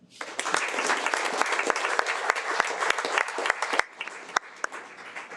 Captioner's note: audience applauding